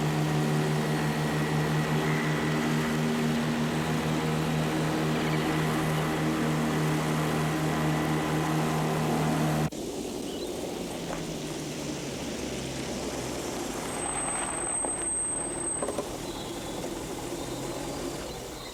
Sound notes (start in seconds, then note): 5.3 birds chirping